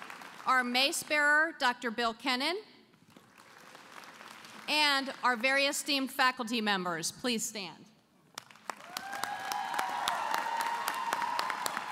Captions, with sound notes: Our Mace Bearer, Dr. Bill Kennan. And our esteemed faculty members, please stand. [ Applause ]